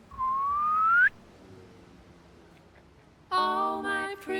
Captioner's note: man whistling